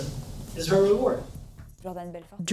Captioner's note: non-english speech